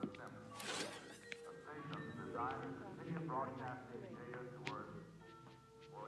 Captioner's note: television chatter continues